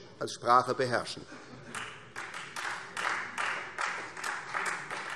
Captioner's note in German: Beifall Freie Demokraten